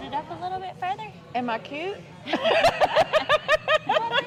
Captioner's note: laughs